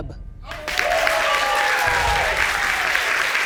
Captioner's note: audience applauding